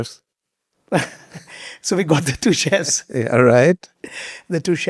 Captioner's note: chuckles